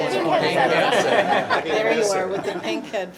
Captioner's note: laughter